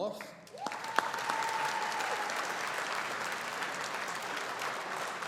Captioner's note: audience applauding